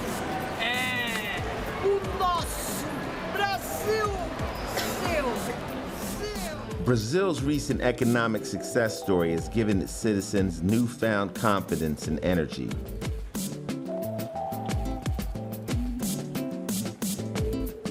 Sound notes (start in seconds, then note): 0.9 man speaking Portuguese